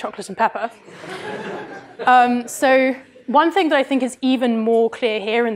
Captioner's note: laughter